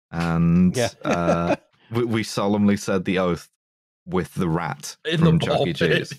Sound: laughs; laughing

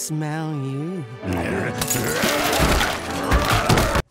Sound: growling

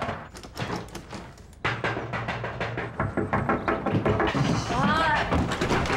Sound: banging on door

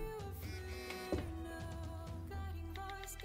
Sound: phone vibrates

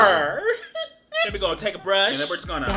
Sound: laughing

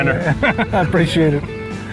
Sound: laughter

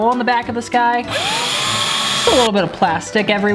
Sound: drilling

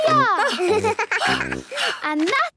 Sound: giggles; panting

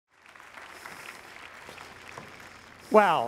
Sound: audience applauds

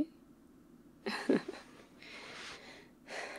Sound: laughs

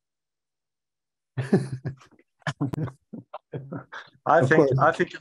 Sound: laughs

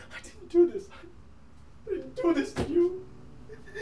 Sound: crying

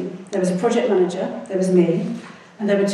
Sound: none

